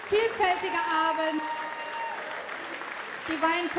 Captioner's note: applause